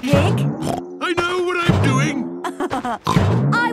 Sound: snorts; laughs

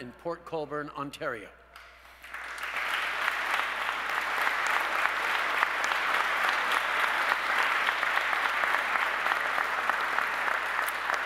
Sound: applause

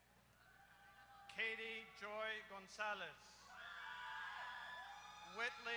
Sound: applause

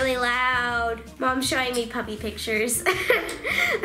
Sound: laughing

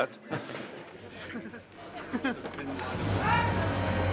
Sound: both chuckling

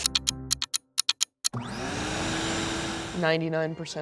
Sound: vacuum starting

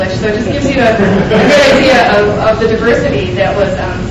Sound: audience laughs

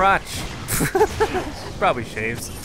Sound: laughs

